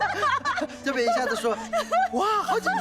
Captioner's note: both laughing